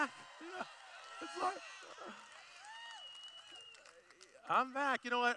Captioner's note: cheering